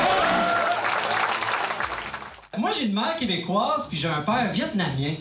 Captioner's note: shouts and applause